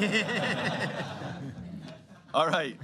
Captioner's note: laughter